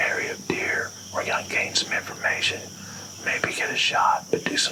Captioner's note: whispering